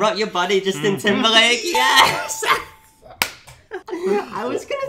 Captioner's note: laughs